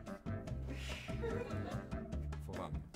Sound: laughing

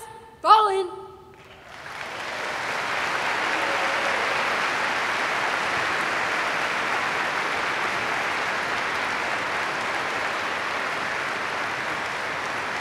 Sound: applause

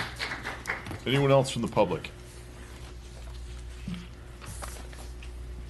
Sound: applause

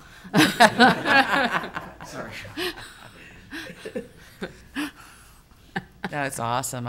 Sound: laughing

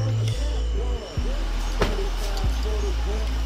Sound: car door slams

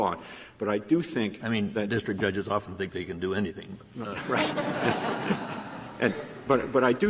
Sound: laughter

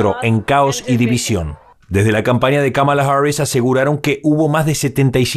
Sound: habla en ingés

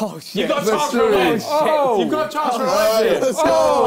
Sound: crowd mumbling

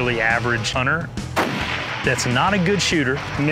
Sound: rifle firing

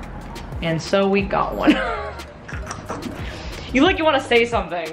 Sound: lady laughs

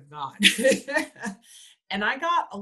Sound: laughs

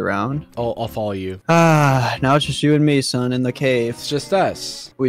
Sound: breathes

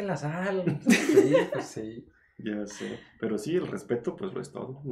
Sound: laughing & Agreeing

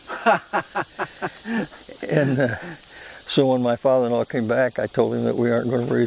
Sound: laughs

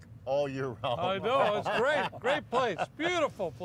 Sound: laughs

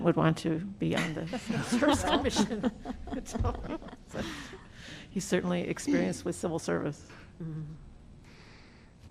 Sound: laughter

